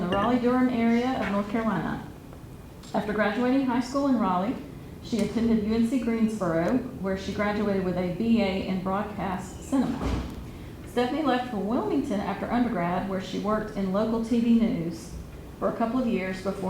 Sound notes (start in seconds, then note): none